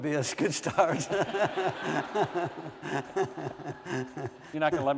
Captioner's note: laughter